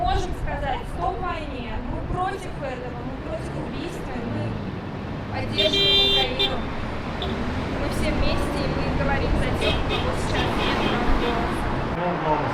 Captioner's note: supporting honks